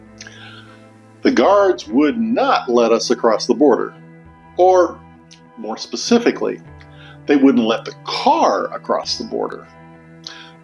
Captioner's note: car